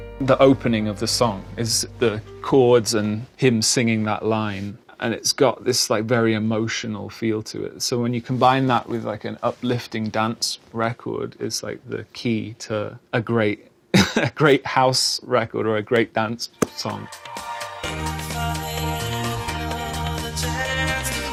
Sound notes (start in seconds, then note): 13.9 chuckling